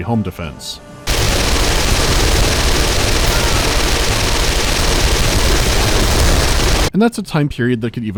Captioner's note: continuous rapid fire